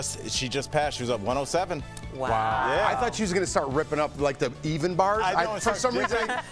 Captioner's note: laughter